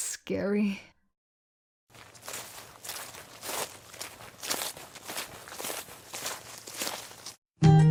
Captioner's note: sounds of the gal pals walking to the park to hang out